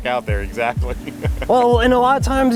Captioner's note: laughing